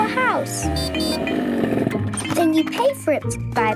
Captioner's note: beeping